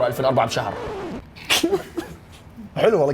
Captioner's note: laughs